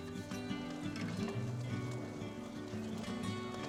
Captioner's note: gentle music; fire crackling; gentle music continues